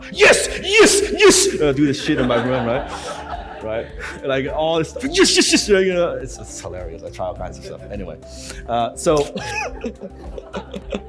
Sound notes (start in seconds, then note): 2.9 crowd laughs; 9.1 laughs